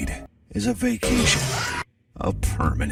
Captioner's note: scream